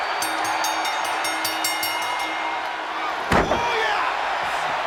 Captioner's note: bell rings